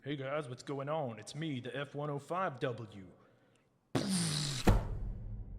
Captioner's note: blast Sound